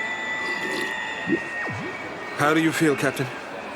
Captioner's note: slurping